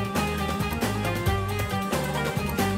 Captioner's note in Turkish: none